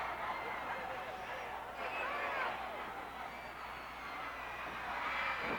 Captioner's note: crowd yelling